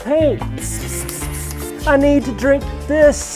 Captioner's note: mimicking spray paint sound